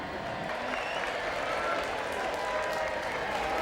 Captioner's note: crowd cheering